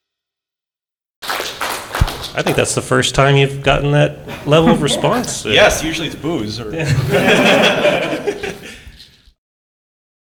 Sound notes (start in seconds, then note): 1.2 applause; 9.6 laughter